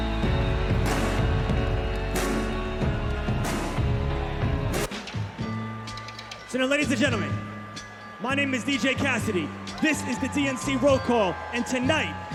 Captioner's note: cheers and applause